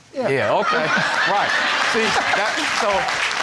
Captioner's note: audience laughs; stuttering